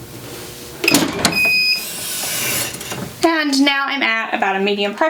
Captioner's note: press beeping